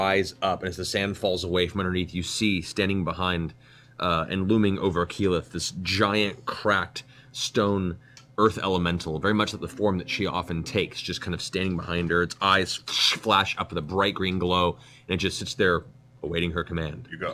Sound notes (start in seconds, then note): none